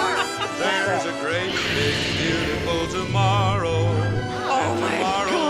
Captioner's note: laughing; lightsaber sound effect